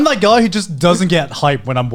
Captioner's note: laughing